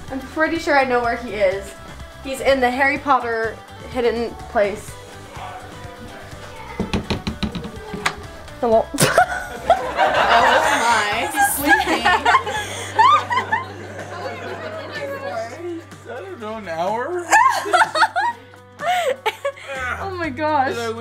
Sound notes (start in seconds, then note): 9.0 laughs; 9.0 crowd laughs; 17.1 laughs